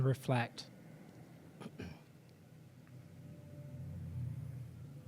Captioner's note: clears throat